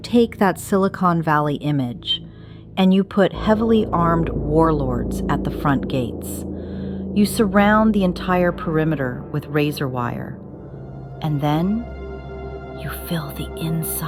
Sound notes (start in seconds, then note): 11.8 whispers